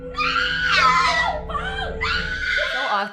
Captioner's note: screaming